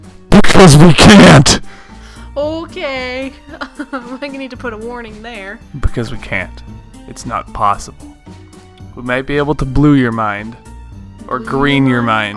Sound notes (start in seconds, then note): 3.4 laughs because was surprised by sudden volume shift